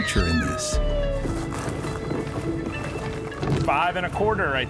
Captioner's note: tussle of crabs